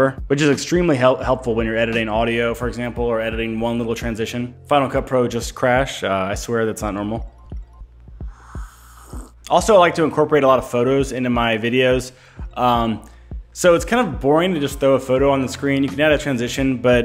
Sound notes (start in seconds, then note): 8.2 slurps